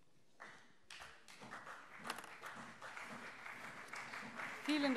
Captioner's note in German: Beifall CDU und vereinzelt SPD